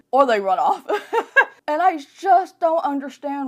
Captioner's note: laughs